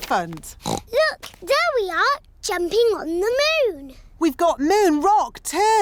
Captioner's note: oinks